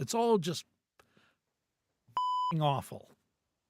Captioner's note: beep